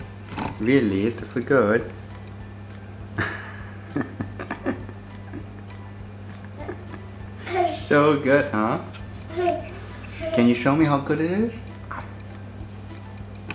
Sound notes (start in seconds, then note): 3.2 laughter